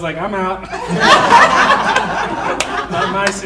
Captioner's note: audience laughing